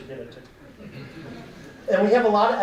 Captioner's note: audience laughing